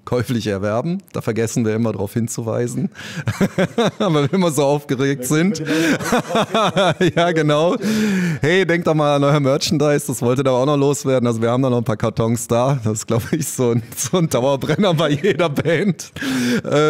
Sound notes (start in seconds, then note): 5.5 muhahaha